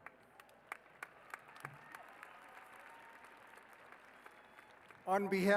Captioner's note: applause